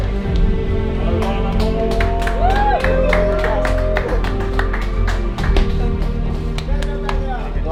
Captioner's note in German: allgemeiner Jubel und klatschen